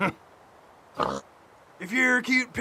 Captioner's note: pig oinks